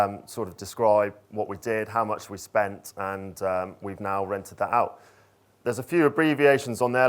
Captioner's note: none